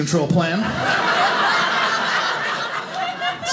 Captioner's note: audience laughing